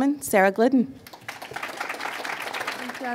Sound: applause

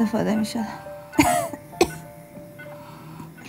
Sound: coughing

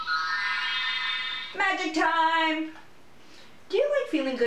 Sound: wand sound

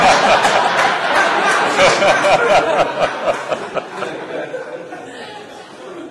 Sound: laughter

